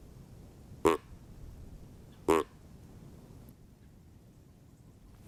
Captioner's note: deer call honking